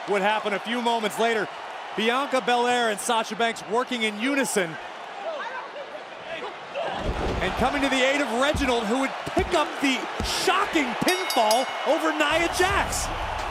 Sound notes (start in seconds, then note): 7.0 bodies thud; 13.3 crowd cheers